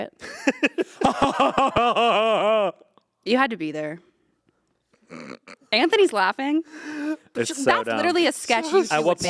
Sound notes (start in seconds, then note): 0.2 Anthony laughing; 0.2 Ian laughing; 5.3 Anthony snorting